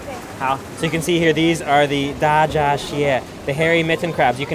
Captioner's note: foreign language